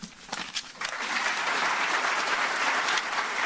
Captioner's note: applause